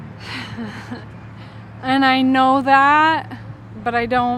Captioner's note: laughing